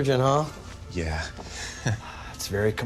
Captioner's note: chuckles